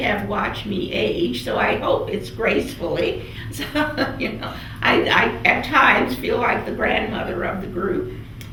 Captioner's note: laughs